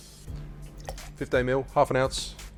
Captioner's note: juice pours